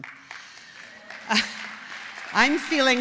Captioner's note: applause